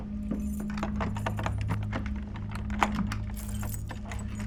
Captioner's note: lock clicking